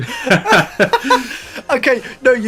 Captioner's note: laughs